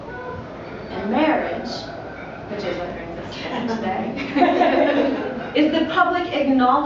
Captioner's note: laughter